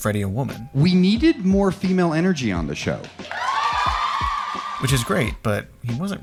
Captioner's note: applause